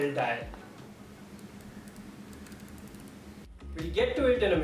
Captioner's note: dial clicks